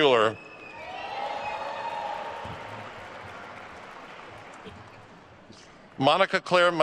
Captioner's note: attendees cheering and applauding